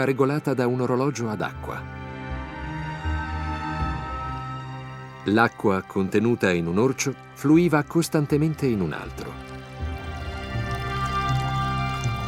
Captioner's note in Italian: Applauso